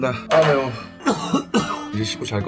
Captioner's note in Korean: 기침